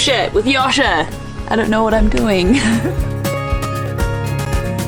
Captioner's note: laughs